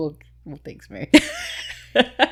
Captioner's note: laughing